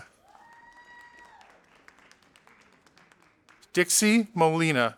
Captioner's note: audience applauding